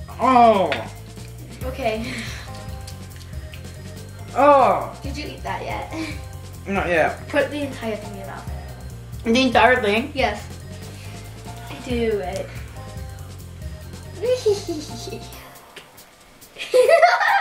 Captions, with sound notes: - Ugh - Okay. - Ugh! - Did you eat that yet? - Not yet. - Put the entire thing in your mouth. - The entire thing? - Yes. Do it. (giggles)